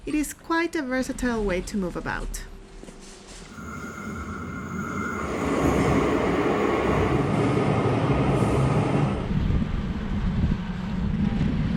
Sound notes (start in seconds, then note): 3.7 train rumbling